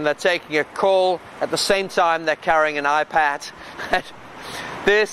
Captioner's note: laughs